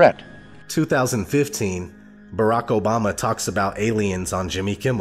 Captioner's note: voiceover